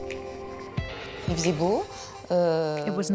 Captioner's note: speaking French